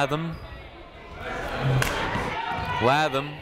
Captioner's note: people shouting in the crowd